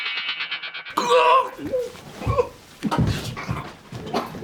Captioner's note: groans